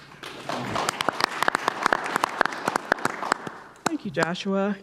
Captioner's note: audience applauding